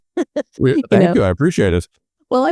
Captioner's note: laughing